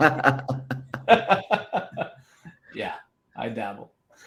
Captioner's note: laughing